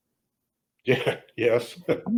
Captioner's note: laughs